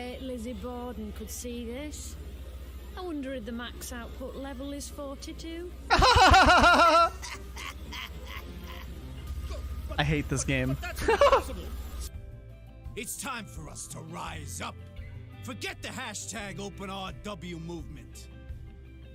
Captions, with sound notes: *Fake Laugh* I hate this game *laugh*